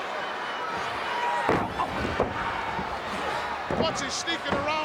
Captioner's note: fist thuds